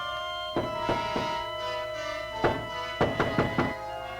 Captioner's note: knocking